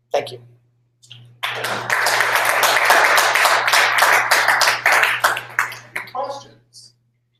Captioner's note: applause